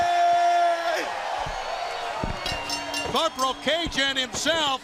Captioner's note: bell ringing